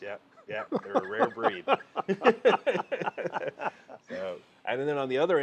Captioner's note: both laughing